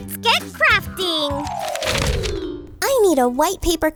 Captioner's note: transition tones